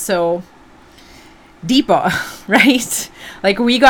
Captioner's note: inhales deeply